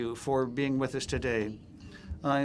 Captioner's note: speaking in French